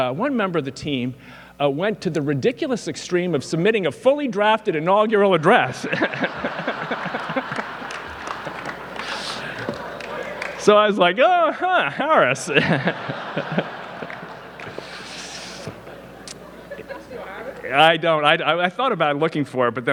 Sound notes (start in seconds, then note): 5.6 laughs; 6.8 audience laughing; 13.5 laughs